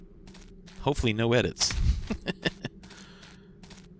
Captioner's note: laughs